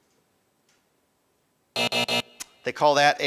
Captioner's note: buzzer buzzing